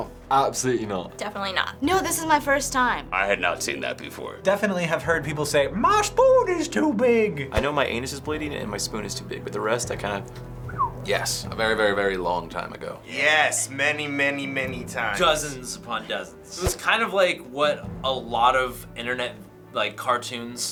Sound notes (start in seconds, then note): 5.7 drawling; 10.6 whistles